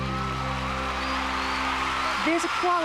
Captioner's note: cheering